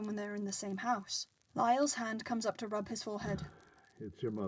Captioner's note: heavy sigh